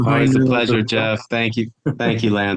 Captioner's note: person chuckles